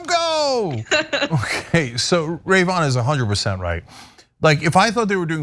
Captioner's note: laugh